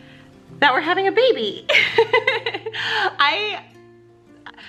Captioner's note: laughs